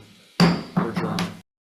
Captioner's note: gavel banging